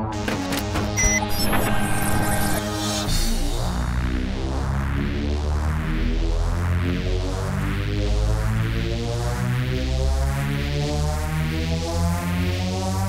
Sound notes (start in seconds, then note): 0.2 button thumping; 1.6 karaoke machine bleeping and buzzing; 3.5 suspenseful music intensifies